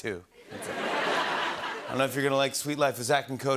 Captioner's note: laughter